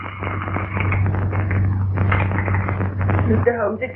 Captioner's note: rattling